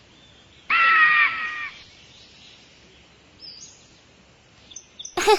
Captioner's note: eagle shrieking